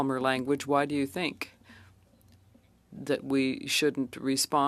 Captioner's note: speaking French